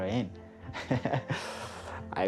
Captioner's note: laughs